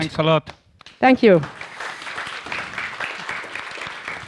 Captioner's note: audience applauds